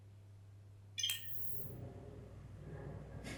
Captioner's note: end-transmission chime